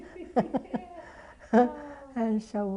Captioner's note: laughter